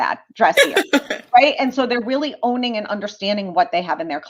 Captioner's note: laughter